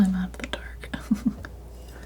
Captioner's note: laughing